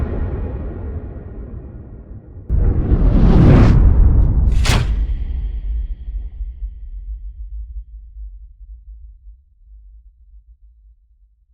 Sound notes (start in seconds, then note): 2.4 logo whooshes